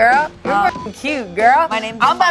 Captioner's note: beep